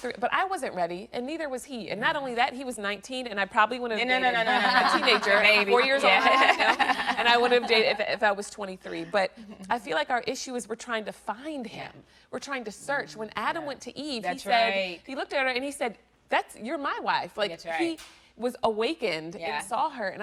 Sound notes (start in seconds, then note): 4.2 all laughing